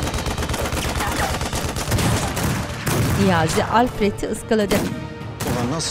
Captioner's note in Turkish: Silah sesleri